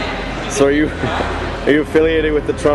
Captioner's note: laughs